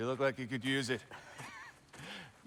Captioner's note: laugh